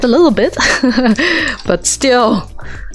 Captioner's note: awkward laugh